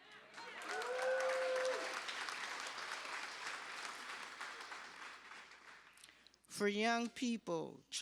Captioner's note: cheers and applause